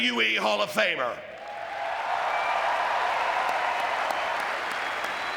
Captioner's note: audience cheering and clapping